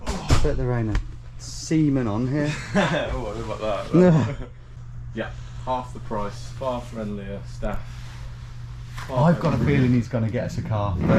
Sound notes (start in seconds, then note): 3.9 laughs